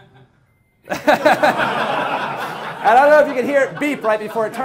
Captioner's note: laughing